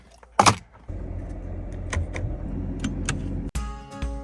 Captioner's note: keys clattering; upbeat music